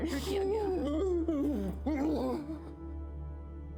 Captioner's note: Karan cries in pain